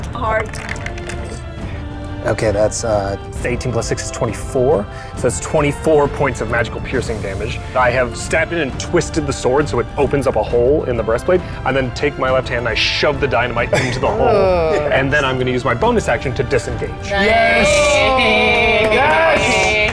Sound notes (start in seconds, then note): 0.4 dice rattling; 13.9 groaning; 17.1 palms clapping